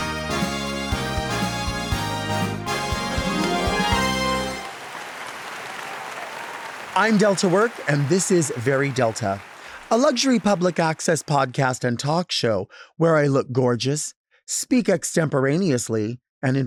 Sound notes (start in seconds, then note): 0.0 lively music; 4.8 audience clapping